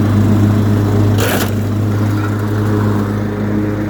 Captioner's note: lawnmower runs over something and there is a loud crunching sound